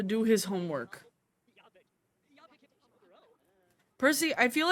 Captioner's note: simlish